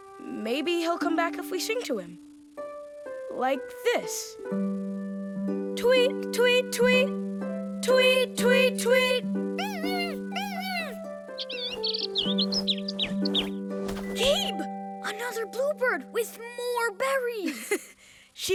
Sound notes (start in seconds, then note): 9.6 murmuring; 11.8 chirping